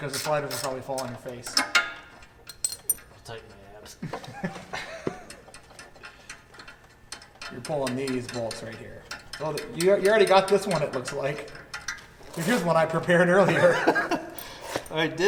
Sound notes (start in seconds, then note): 4.0 both laughing